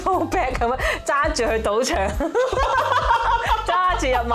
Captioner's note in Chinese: 爆笑